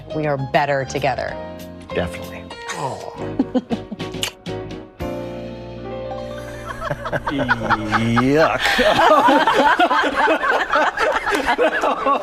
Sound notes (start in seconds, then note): 3.7 chuckling and kissing; 9.4 all laughing